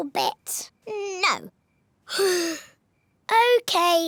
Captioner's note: sighs